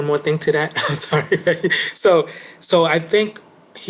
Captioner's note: laughing